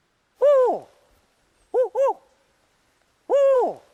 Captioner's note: man hooting